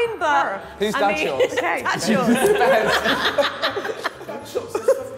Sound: all laughing

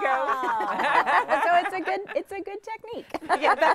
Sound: all laughing

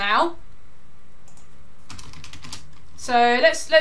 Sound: keyboard clicking

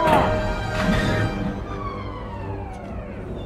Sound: door opening

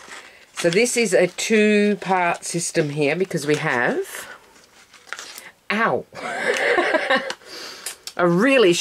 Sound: laugh

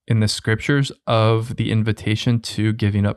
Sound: none

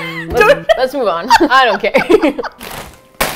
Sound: laughs

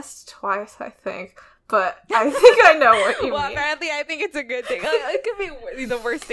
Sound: laughs

